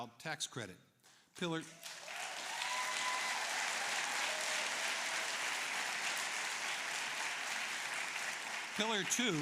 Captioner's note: applause